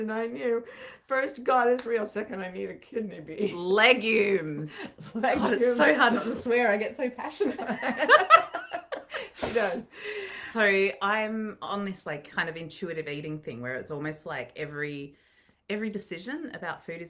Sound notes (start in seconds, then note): 7.6 laughing